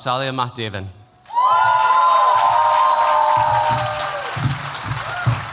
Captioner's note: cheering